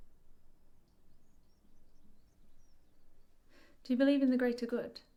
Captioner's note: birds chirping